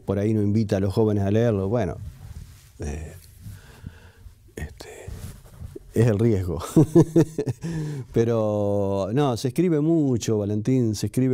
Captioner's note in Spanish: Risas